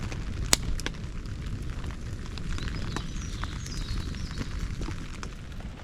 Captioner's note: fire cracking & light rain